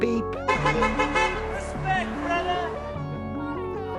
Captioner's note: car horn